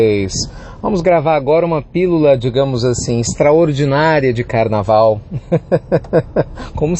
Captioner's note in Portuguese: risos